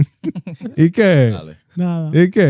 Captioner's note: laughing